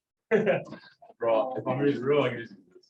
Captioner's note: laughter